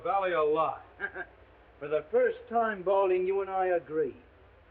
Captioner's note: scoffs